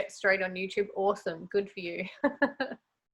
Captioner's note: chuckles